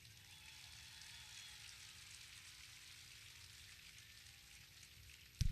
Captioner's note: audience clapping